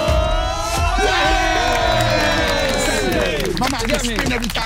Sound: everyone cheering

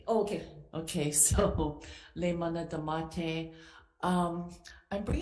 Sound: speaking Hawaiian

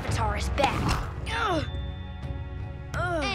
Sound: groaning

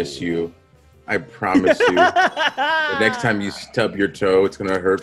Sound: laugh

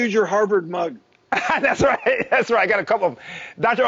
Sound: laughing

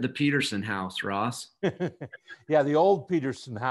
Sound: chuckles

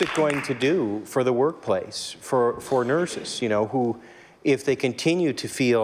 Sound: applause

